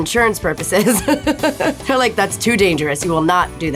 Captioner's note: laughs